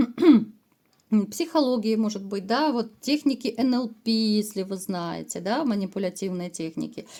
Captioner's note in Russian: откашливается